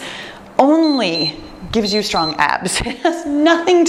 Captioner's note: timer beeps